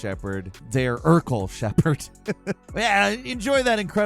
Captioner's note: chuckles